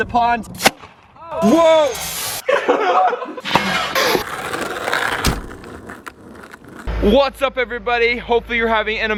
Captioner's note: laughs